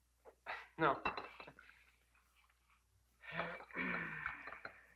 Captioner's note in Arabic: يضحك